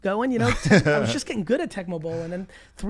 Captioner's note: laughs